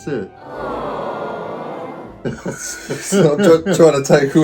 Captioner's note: crowd awing